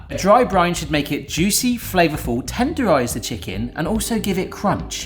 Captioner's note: none